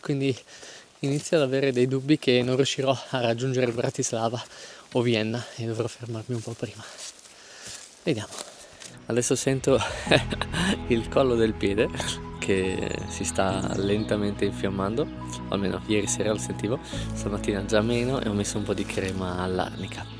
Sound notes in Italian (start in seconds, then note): 9.8 risate